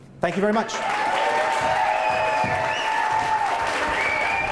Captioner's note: applause